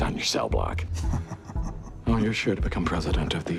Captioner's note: Billy laughing